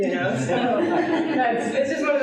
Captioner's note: laughing